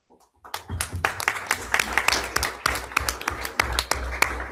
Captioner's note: everyone applauds